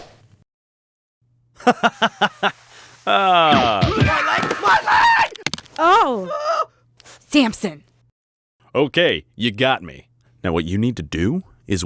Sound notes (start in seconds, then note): 1.6 Samson laughing; 3.1 sounds of violence